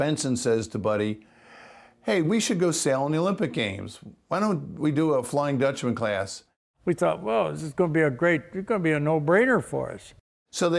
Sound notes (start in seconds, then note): none